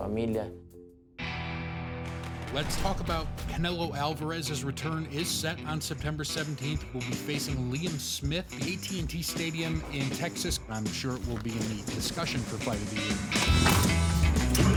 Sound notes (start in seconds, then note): 3.5 man on radio